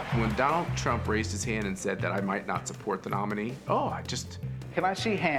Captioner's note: audience cheering